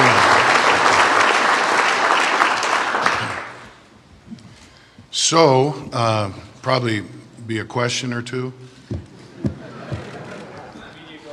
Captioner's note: applause